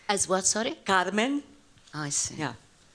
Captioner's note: spanish